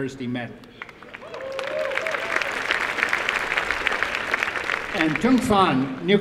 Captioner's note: applause